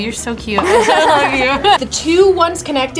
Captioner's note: both laugh